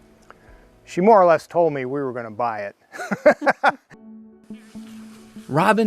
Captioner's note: laughing